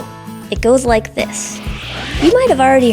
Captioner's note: woosh